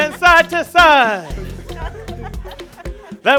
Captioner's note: laughter, chatter